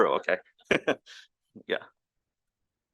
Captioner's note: chuckles